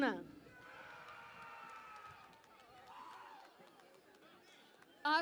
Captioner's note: cheering and Applause